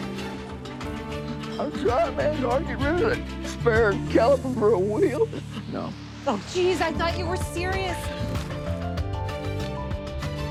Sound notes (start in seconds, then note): 5.1 sobs